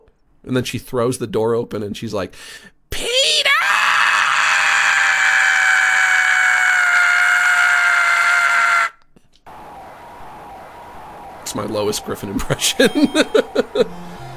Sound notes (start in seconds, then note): 0.2 normal voice; 2.7 Imitating Lois Griffin; 11.3 normal voice; 12.3 chuckles